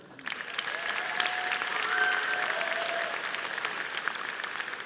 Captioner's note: audience applauding